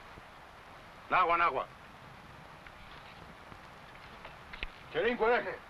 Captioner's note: speaking foreign language